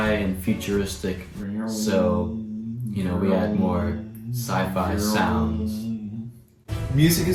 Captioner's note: sci-fi sounds